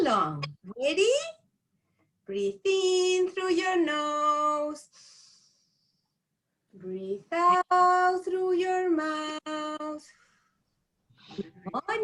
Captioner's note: breathe in; breathe out